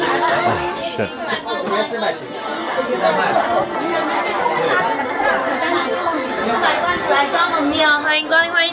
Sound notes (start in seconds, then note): 3.8 speaking in foreign language